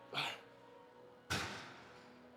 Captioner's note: grunting